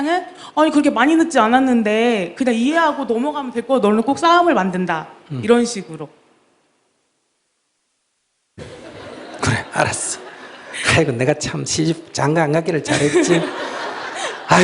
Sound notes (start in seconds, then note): 8.6 audience Laughter